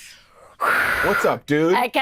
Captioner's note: Siobhan exhales deeply